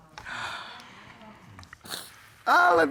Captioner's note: sniffles